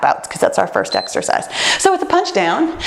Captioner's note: timer beeps